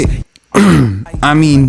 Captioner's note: ahem